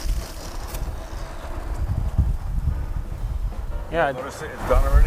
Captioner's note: polishing sound